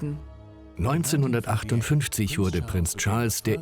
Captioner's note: voiceover